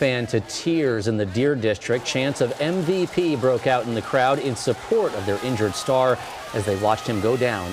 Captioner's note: crowd chanting m.v.p